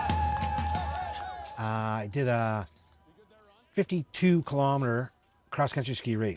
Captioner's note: crowd cheering